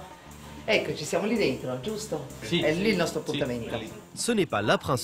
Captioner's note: speaks in Italian